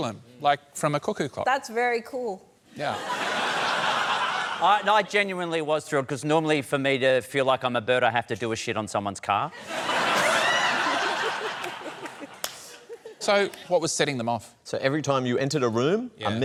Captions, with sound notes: like from a cuckoo clock. That's very cool. Yeah. (LAUGHTER) No, I genuinely was thrilled 'cause normally for me to feel like I'm a bird, I have to do a shit on someone's car. (LAUGHTER) So what was setting them off? So every time you entered a room,